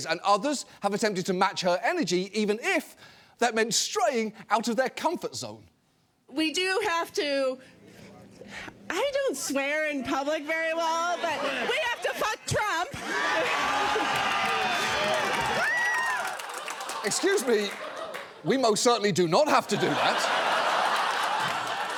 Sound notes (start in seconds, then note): 13.2 chuckles; 13.2 crowd cheering; 19.4 audience laughing